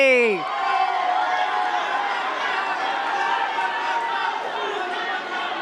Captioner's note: cheers and claps